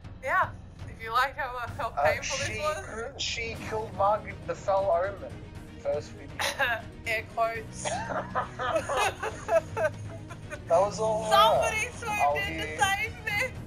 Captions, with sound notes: Yeah. If you liked how, ah, how painful this was She “killed” Margit the Fell Omen. First video *Coughs* Air quotes. *Laughs together* That was all her. Somebody swooped in to save meh.